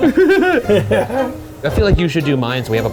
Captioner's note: both laughing; playful music continues